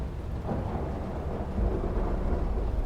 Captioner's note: encroaching thunder